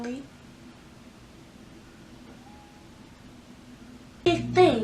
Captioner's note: awkward silence